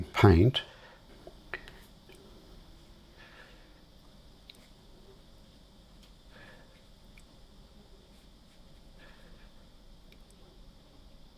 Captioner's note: silence